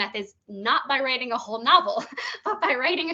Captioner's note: chuckling